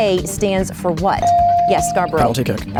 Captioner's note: bell dings